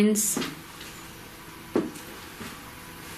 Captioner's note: footsteps